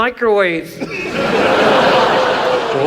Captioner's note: audience laughs